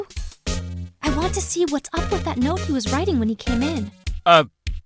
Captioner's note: whispering